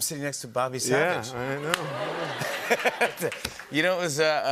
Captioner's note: laughter